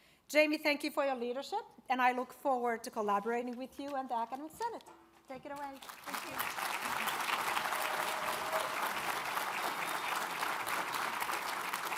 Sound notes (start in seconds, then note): 5.8 audience applauds